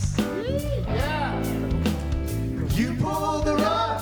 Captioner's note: group cheers